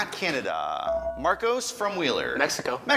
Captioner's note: ding